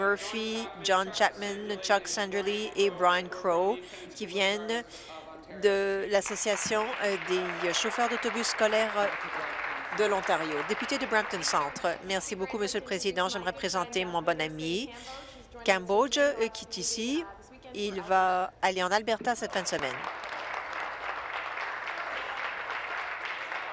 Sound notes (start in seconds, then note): 10.9 applause